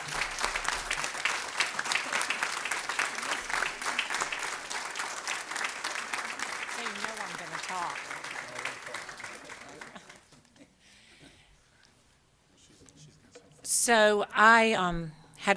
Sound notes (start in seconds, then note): 2.2 applause